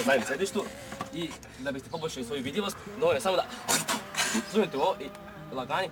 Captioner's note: spits